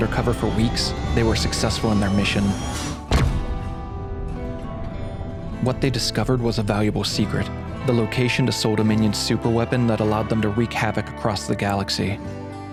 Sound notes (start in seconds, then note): 2.8 ship jumps using FTL drive